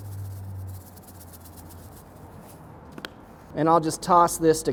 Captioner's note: salt shaking